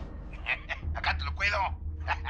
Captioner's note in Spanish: Risas